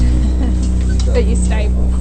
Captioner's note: laughter